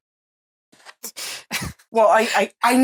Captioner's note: laughing to not screm